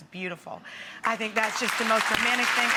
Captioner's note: audience applause